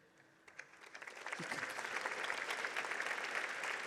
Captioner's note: crowd applauds